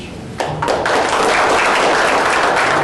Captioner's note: applause